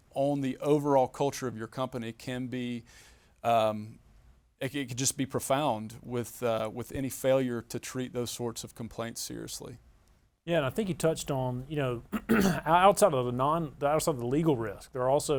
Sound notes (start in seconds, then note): 12.1 clears throat